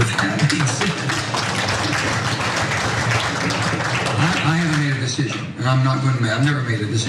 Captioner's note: applause